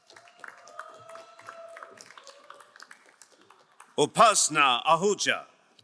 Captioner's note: crowd cheering and applauding